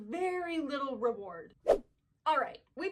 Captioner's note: whip